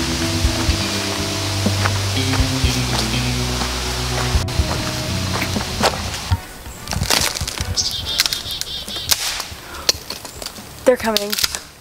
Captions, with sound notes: (twigs snapping) - They're coming.